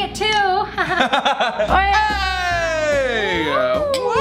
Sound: laughter

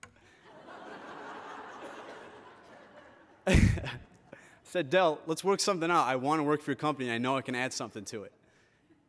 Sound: laughter

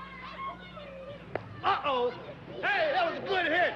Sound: ball striking bat

